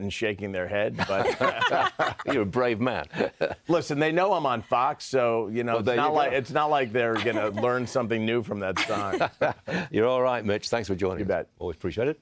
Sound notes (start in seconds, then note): 7.1 laughter